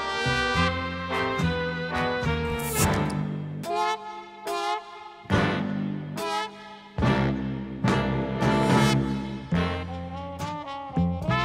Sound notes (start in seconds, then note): none